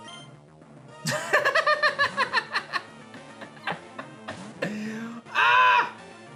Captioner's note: laughs